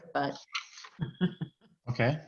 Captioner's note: laughs